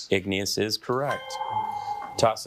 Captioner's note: bell dinging